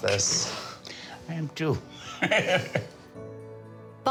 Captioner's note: laughs